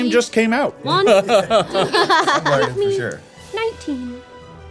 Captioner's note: everyone laughing